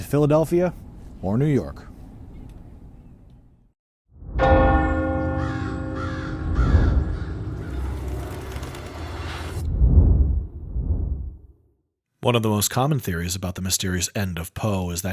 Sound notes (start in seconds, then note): 4.4 clock chimes; 5.9 bird calls; 7.5 wings flutter